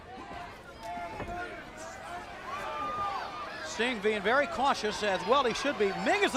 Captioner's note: crowd chatter